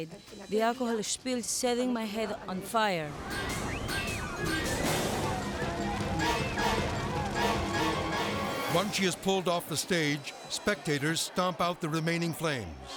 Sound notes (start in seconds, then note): 3.2 people screaming; 6.6 ominous music